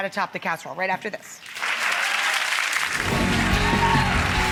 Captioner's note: audience applauds; upbeat music